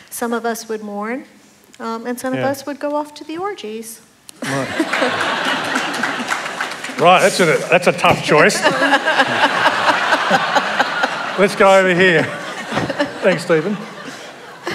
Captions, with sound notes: Some of us would mourn and some of us would go off to be orgies. [ Laughter and Applause ] >> Right. That's a tough choice. [ Laughter ] Let's go over here. Thanks Steven.